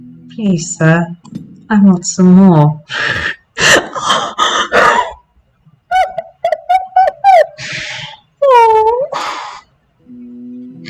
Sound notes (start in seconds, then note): 3.6 laughter; 3.9 high-pitched laughing